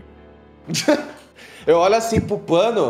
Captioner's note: laugh